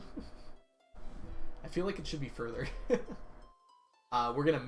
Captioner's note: laughs